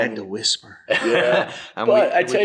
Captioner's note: laughs